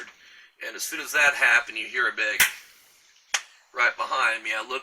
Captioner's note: smack